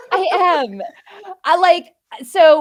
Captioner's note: laughing